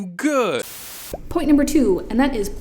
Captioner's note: static noise